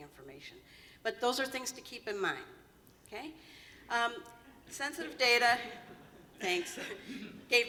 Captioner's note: laughter